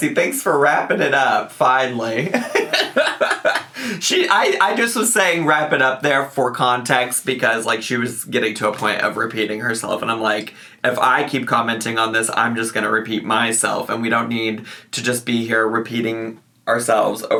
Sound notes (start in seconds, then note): 2.1 laughs